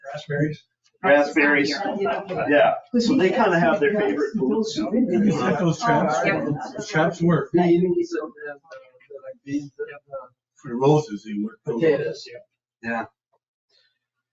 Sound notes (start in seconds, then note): 8.0 speaks distantly